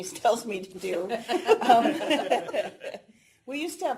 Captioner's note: laughter